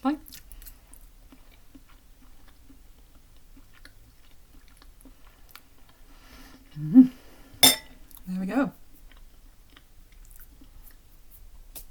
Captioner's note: nomnom